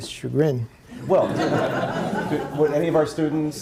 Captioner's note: audience laughing